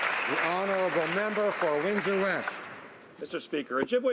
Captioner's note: some Applause